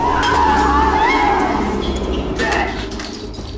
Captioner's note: glass breaking; smack